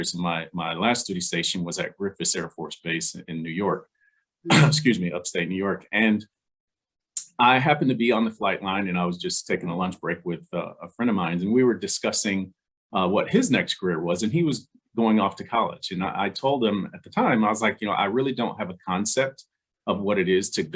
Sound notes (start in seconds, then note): 4.5 clears throat